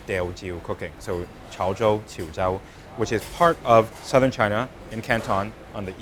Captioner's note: speaking in Mandarin